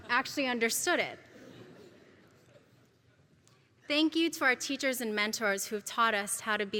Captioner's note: laugh